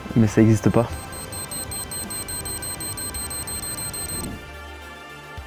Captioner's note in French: bip bip bip bip bip bip